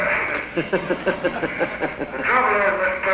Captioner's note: laughter